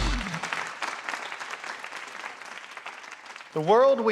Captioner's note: applause